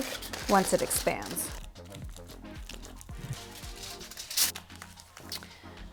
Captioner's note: foil crackling sounds